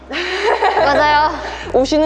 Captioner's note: laughter